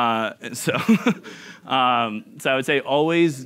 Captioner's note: chuckling